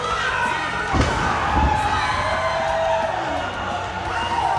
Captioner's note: audience yelling